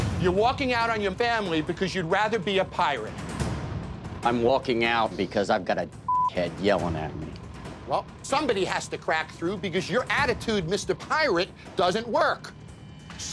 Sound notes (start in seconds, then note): 6.0 beep